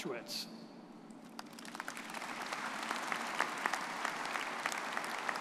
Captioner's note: audience applauding